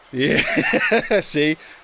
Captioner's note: laughing